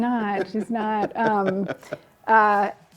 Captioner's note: laughs